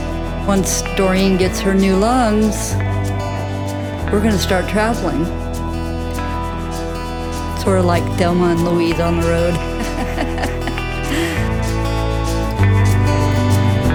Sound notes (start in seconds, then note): 8.8 laughs; 12.0 open road music and the sound of wind in the trees